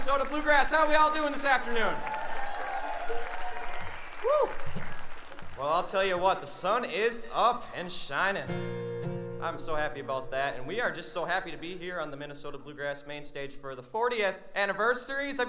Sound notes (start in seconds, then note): 2.0 audience cheering